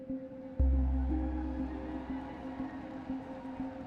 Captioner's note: crowd cheering